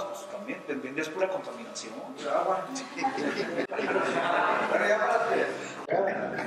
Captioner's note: laughter